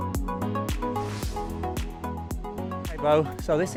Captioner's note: air whooshing